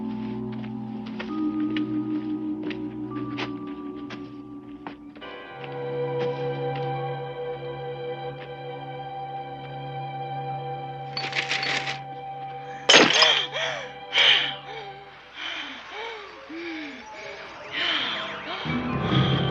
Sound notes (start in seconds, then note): 12.8 smashing; 15.0 heavy breathing